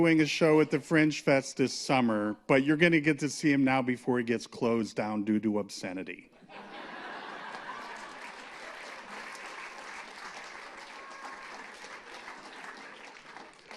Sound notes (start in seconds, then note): 6.4 laughter; 7.1 applause